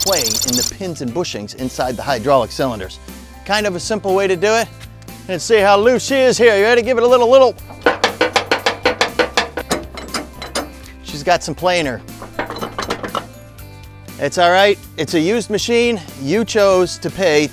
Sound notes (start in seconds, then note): 7.6 tugging